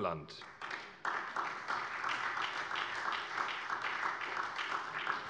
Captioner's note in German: Beifall bei der SPD